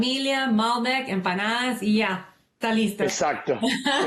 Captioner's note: speaking spanish